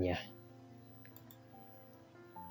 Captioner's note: click